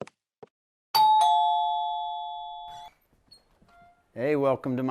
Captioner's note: man's footsteps; doorbell dings